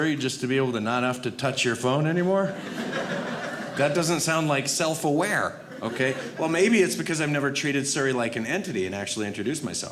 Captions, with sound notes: just to be able to not have to touch your phone anymore? (audience laughing) That doesn't sound like self-aware. Okay? Or maybe it's because I've never treated Siri like an entity and actually introduced myself.